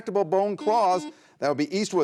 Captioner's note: buzzer buzzes